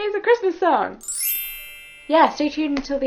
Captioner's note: sparkly sound effect